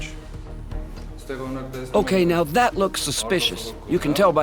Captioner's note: voiceover